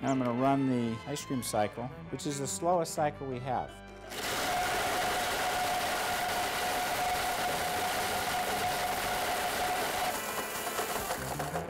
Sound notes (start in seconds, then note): 4.0 blender whirring